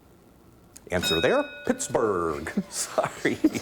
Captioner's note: ding